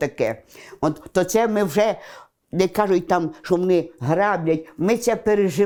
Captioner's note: Russian